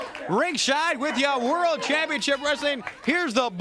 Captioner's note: crowd cheering